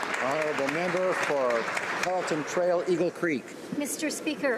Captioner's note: speaking native language